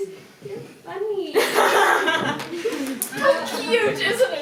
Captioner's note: Wren laughs awkwardly